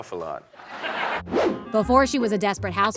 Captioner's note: laughter